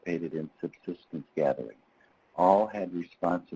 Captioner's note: speaking in foreign language